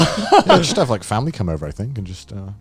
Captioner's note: chuckling